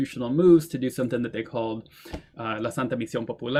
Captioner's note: speaks Spanish